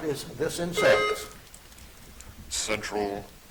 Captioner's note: buzzer dings